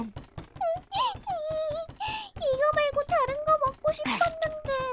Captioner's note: sniffling; chewing on the table